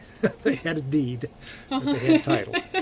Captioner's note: BOTH laugh